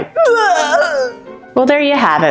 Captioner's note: barfing sounds